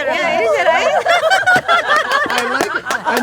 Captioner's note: ladies laughing